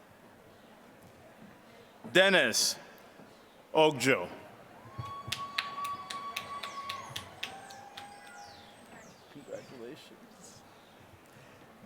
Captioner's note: applause